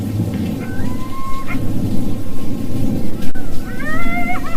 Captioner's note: animal howls